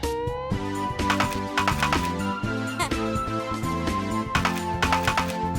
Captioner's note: video game noises